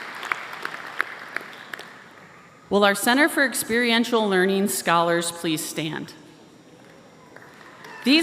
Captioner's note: applause